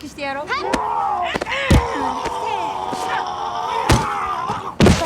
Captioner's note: groaning in pain